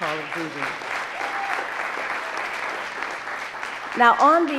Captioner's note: audience applauding